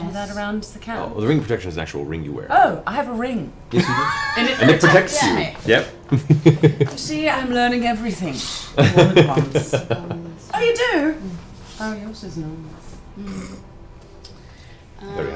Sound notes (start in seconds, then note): 6.7 laughs